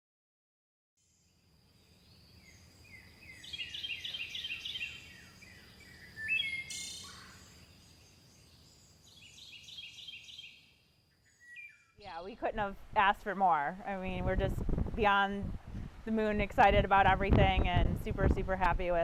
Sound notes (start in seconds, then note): 1.8 birds twittering